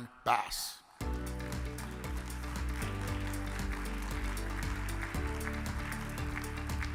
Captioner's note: upbeat music; audience clapping